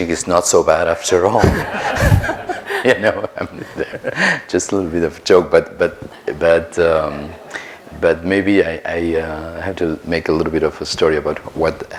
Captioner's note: audience laughter